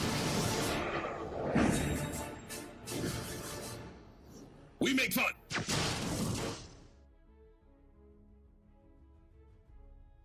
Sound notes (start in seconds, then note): 0.0 dramatic music; 5.7 comic lasers; 7.0 fantasy music